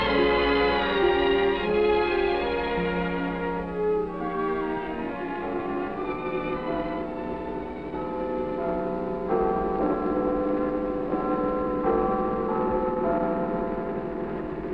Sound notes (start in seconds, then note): 7.9 bell tolling